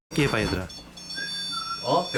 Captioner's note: whistle